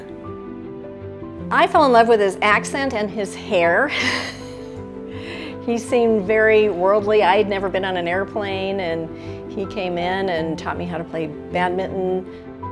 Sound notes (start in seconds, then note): 0.3 soft piano music continues; 3.9 laughs softly; 12.4 soft piano music continues